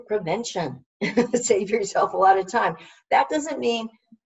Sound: laughs

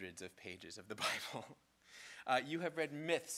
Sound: giggles

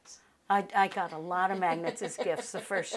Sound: laughing

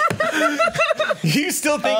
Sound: laughs

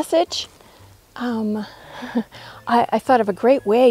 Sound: nervous chuckle

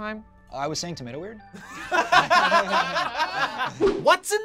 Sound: group laughs

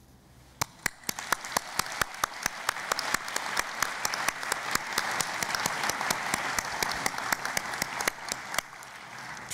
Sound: applause

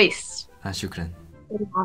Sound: Arabic

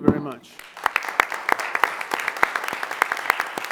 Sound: applause

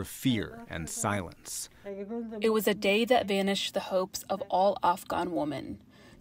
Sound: through translator

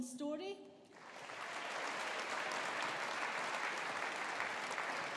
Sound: audience applauding

